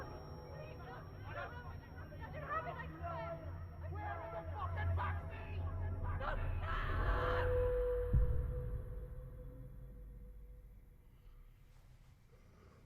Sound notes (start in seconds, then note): 3.2 faint shouting in distance